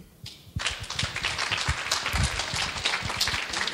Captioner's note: clapping